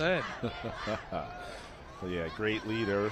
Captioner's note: laughter